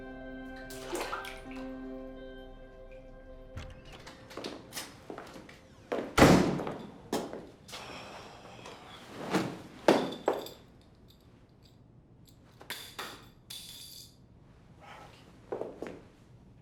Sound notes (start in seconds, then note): 6.1 door slams; 7.7 sighs